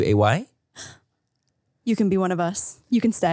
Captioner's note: gasps